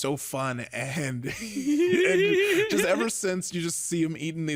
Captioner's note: laughs